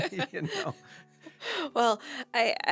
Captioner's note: laughter